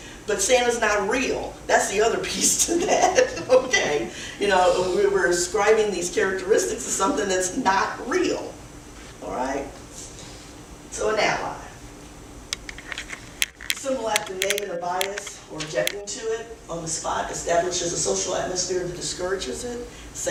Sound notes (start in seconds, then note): 3.8 laughs